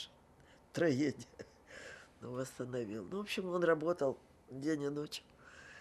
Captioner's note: laughing